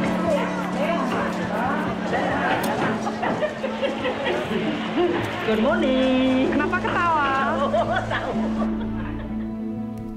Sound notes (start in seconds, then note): 5.1 woman No.2 speaking native language; 7.4 woman laughs